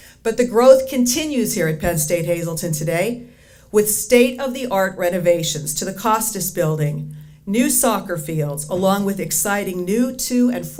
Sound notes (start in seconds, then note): none